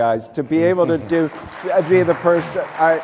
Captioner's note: applause